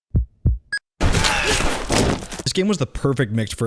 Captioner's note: beep; heart beats; gun shot; groans